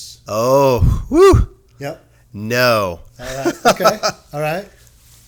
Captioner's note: laughing